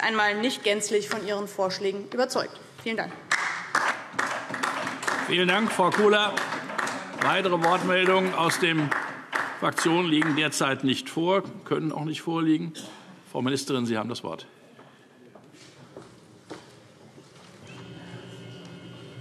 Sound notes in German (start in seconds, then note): 6.1 Beifall DIE LINKE